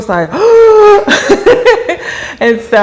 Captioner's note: gasps